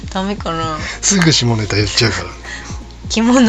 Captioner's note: laughs